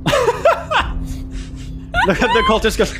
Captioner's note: laughing